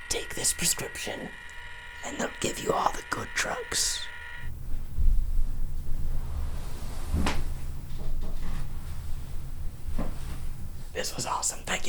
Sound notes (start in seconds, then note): 8.1 creaking